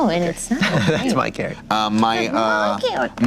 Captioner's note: laughing